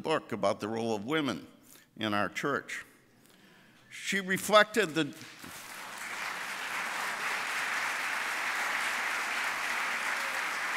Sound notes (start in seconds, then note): 5.5 audience applauding